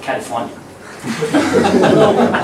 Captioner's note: laughter